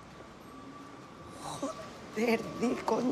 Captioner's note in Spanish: susurrando